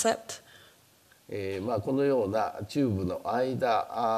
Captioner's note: speaking japanese